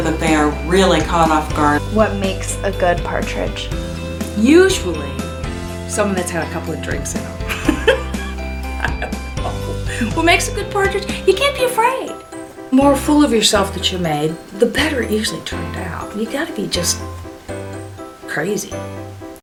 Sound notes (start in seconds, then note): 7.4 laughs